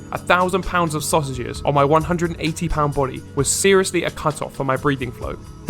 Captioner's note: none